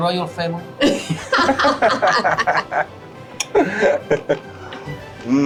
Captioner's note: laugh